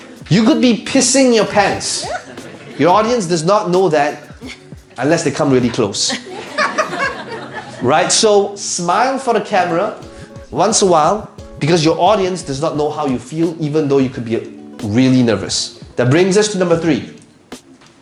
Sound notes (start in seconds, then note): 1.4 audience laughing; 5.4 audience laughs harder